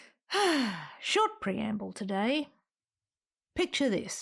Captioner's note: sigh